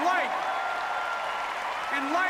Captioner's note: applause